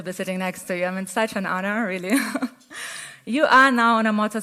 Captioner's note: laughs